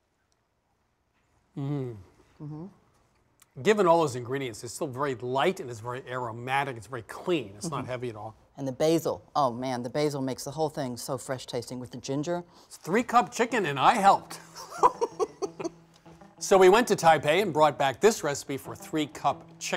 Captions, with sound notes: - Mmm. - Mm-hmm. - Given all those ingredients it's still very light and it's very aromatic. It's very clean, it's not heavy at all. - And the basil. Oh man, the basil makes the whole thing so fresh-tasting with the ginger. - Three-cup chicken, and I helped. (laughs) So, we went to Taipei and brought back this recipe for three-cup chicken